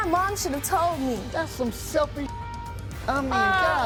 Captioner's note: beep